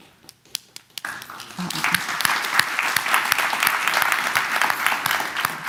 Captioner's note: applause